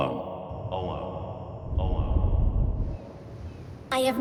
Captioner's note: echoing